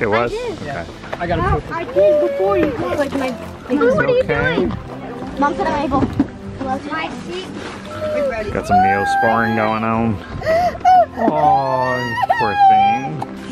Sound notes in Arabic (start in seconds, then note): 1.6 ثرثرة جماعية; 1.9 أورورا تبكي; 10.4 أورورا تبكي